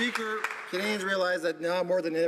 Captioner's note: some Applause